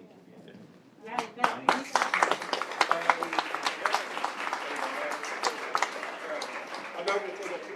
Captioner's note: applause